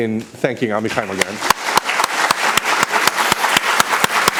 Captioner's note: applause